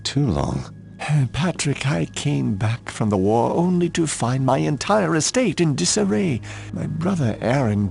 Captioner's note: sigh